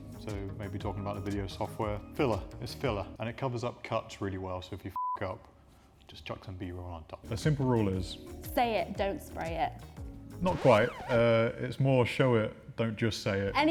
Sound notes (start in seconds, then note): 5.0 beep